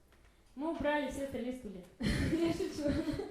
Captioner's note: laugh